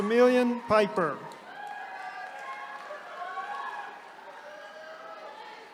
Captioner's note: attendees cheering